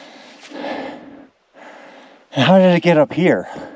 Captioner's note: none